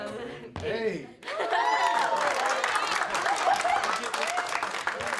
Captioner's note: cheering and clapping